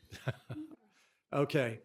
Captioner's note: laughter